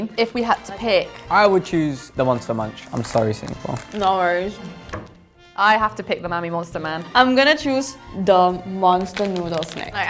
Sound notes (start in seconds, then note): 2.2 bag crinkles